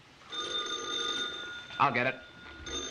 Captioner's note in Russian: Телефон